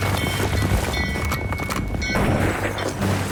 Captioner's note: bell clanging; horse hooves thundering; gunfire pops